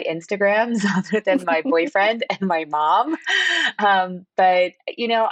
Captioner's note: laughter